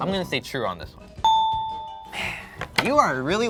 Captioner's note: dinging